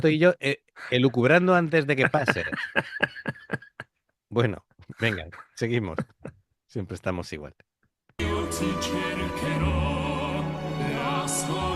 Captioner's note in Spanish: risas